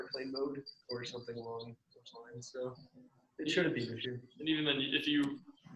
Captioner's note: murmurs